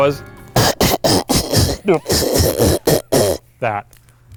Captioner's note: beatboxing